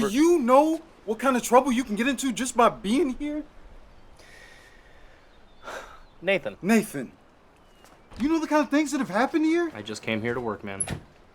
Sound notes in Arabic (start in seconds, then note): none